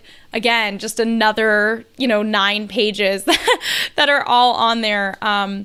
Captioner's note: laughs